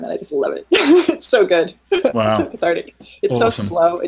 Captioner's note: laughing